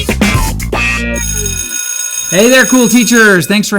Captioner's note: bell ringing